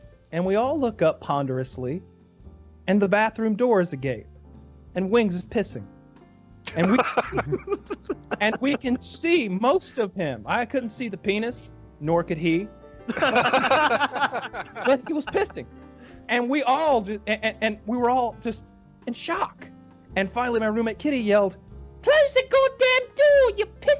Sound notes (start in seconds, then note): 6.6 laughing; 13.1 all laughing